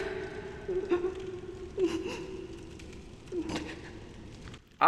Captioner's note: sobbing